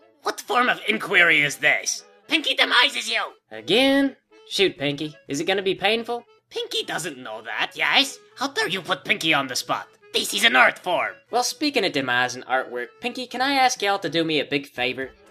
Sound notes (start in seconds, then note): none